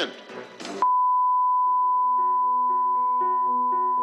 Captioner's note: beeping